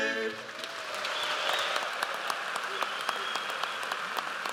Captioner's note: audience applauds